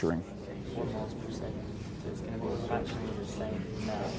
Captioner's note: class discusses